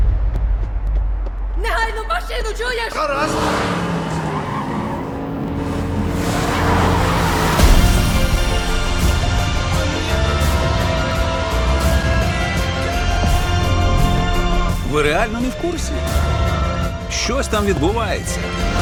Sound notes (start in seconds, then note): 3.2 accelerating; 3.2 tires screeching